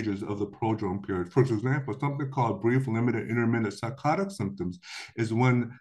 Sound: blips

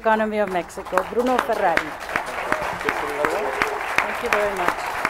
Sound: applause

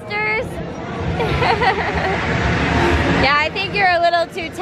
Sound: laughs

